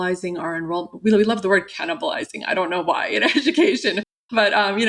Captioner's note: laughter